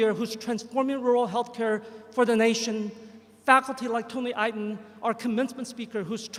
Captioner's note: none